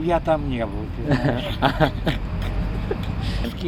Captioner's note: old cute granpa chuckle